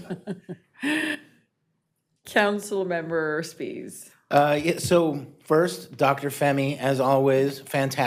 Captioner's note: laughing